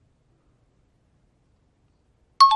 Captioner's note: timer bell rings